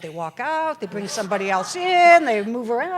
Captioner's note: laughter